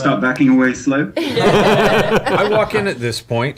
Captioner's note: all laugh